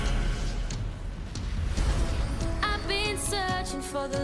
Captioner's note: none